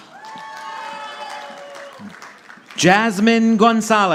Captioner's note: audience applauding